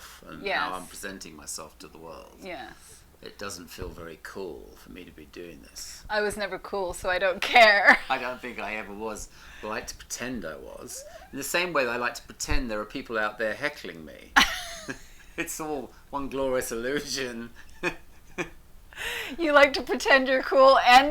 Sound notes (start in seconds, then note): 14.3 both laugh